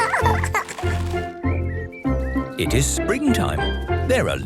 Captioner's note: laughing; birdsong